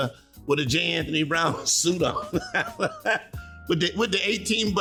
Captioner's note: laughing